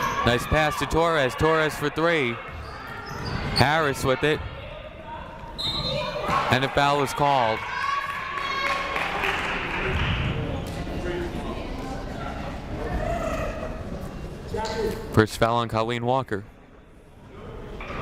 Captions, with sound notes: Nice pass to Torres, Torres for three. Harris with it. (whistle blows) And a foul is called. (crowd clapping) First foul on Colleen Walker.